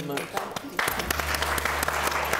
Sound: audience clapping; upbeat music

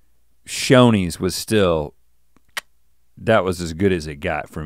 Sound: clicks tongue

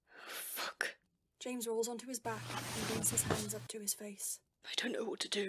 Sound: rustling

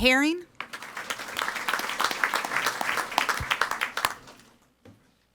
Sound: audience applauding

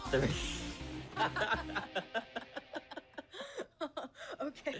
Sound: both laughing

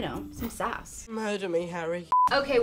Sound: beep

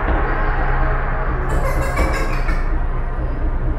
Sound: giggles

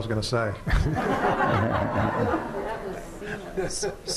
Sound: laughter

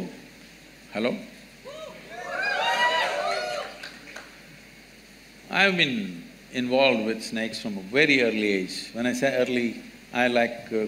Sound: cheers

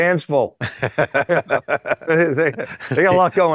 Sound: laughs

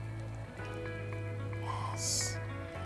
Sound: whispers

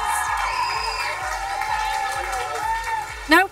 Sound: cheering, applause

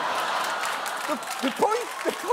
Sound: audience laughing

